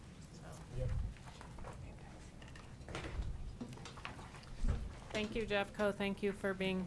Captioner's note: people chattering